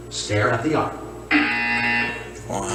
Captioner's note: buzzer sounds yet again